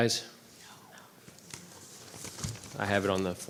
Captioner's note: board members whispering